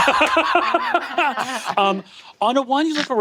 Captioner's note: Brennan and Emily laughing